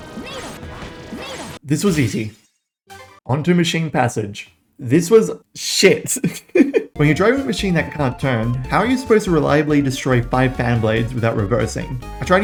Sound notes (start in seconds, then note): 6.2 laughs